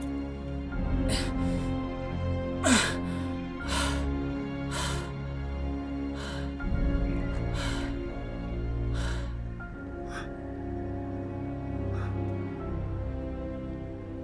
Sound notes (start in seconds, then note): 0.6 groaning and gasping; 8.8 breathing in grief continuously